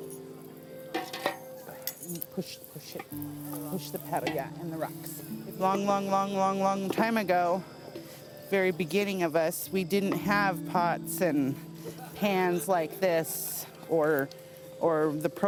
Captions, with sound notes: (chattering) Long, long, long, long, long time ago, very beginning of us, we didn't have pots and pans like this, or the propane cook stove.